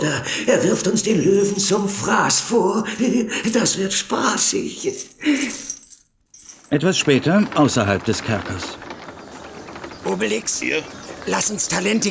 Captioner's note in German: gelächter